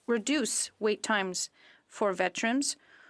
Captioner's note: speaking French